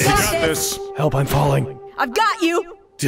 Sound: monotone

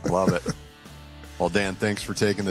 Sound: laughs

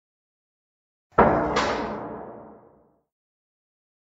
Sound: sound of factory hit with echo

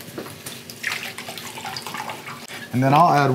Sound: glugging

